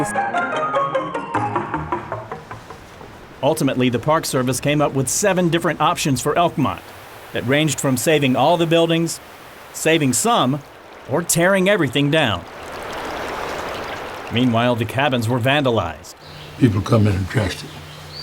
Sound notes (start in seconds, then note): 0.0 upbeat music fades; 12.3 water bubbling